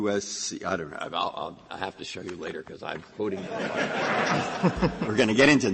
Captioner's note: laughter